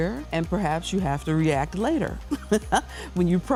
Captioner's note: laughs